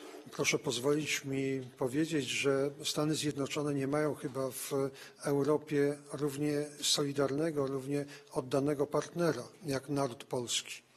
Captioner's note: speaking polish